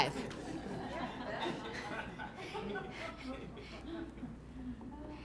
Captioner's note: everyone laughing